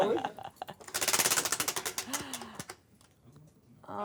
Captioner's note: ratcheting